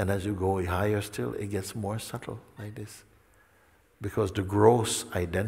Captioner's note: none